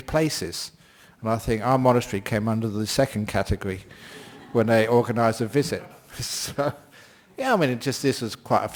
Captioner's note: laughter